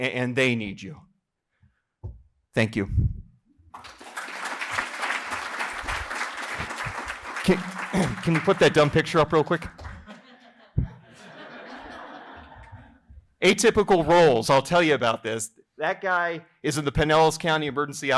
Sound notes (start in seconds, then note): 7.5 applause; 11.4 laughter